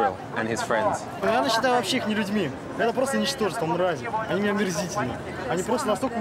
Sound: speaking in foreign language

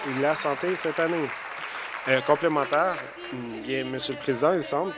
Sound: applause

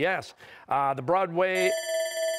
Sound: bell ringing

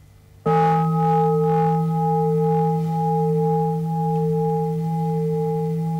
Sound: bell rings

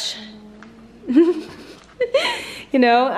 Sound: giggling

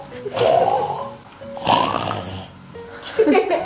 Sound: oinking

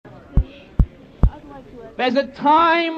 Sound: mic bumping

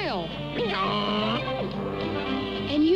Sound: hee-haw

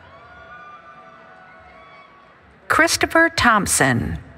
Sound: cheering

